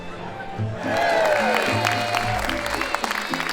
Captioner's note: applause